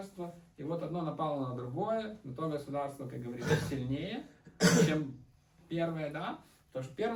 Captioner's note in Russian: откашливается